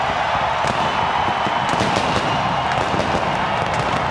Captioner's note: fireworks popping